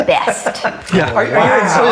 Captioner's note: laughs